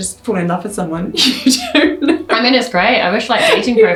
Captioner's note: laughs